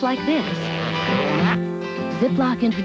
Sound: plastic zipper sound

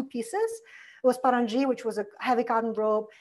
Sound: foreign language

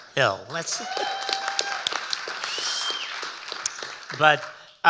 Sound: audience cheering and applauding

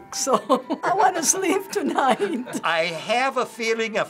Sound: laughing

